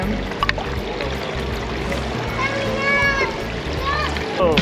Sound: water splashes

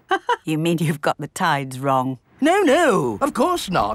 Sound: laughs

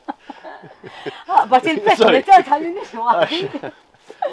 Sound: laughs

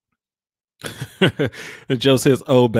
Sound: laughs

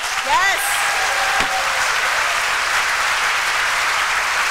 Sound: applause

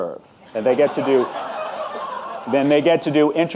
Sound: audience laughing

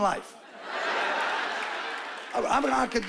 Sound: laughing

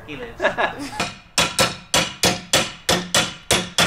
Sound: metal clanging

